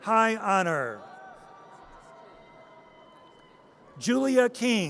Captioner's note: audience cheers